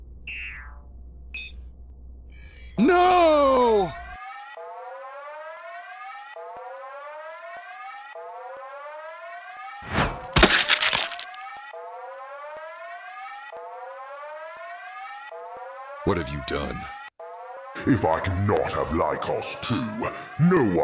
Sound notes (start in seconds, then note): 1.3 electric Chirping; 4.2 alarm Sounds; 10.8 Squelch